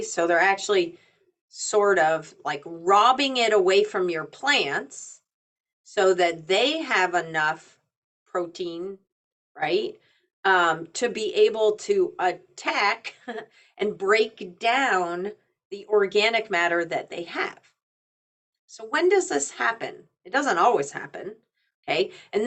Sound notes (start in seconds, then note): 12.8 chuckling